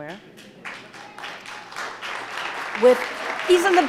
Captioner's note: audience applauding